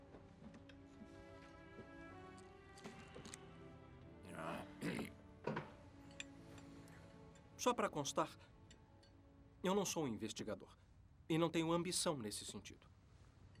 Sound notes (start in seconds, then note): 4.8 Seth clears throat